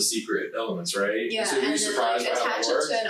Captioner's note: group chattering